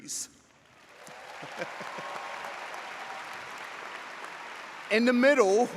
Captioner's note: audience applauds